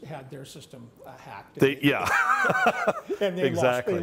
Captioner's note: laughs